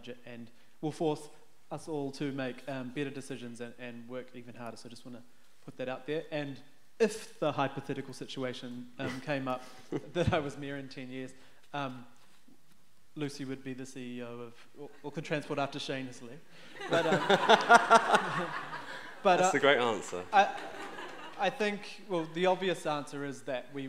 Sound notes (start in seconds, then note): 16.7 laughing